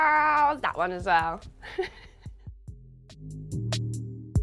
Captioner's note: chuckles; smooth hiphop music